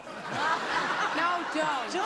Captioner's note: laughter